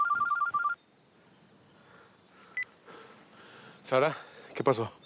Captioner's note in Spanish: suena el celular; la otra línea timbra